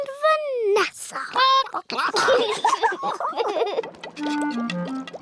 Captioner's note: chickens chatter; children giggle